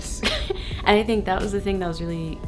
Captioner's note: laughs